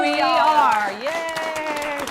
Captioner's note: applause